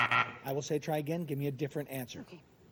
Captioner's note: buzzer sounds